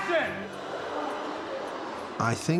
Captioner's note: kids gasping